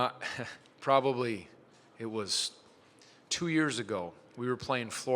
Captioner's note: chuckles